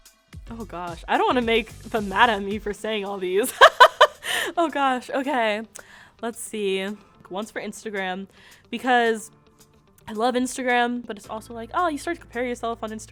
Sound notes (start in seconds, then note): 3.5 laughs